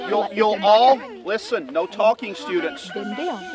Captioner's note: distant cock crows